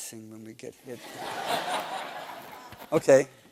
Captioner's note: laughter